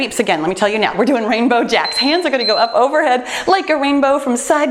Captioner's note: timer beeps